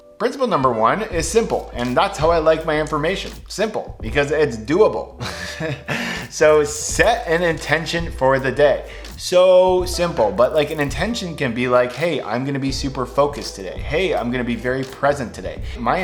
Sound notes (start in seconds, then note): 5.2 laughs